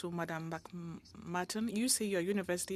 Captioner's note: speaking French